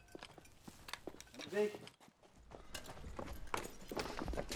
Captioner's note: speaking German